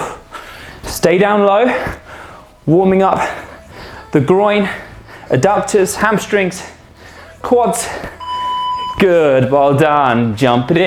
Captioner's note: panting and sighs